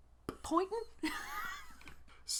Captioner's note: laughter at our own stupidity